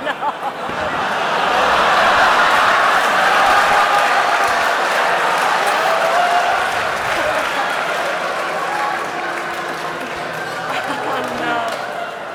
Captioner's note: laughter